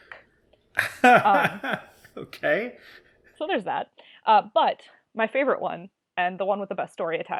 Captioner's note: laughs